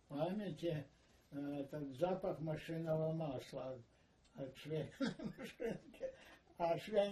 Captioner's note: laughing